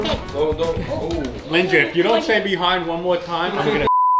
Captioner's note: beep